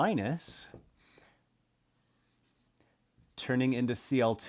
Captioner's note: pen scratching